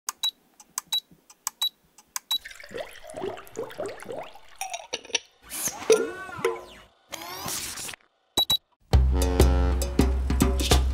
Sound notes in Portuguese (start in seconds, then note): 0.0 Bips; 2.4 Som de líquido derramando; 5.7 Bips; 7.1 Som mecânico; 9.0 Buzina de navio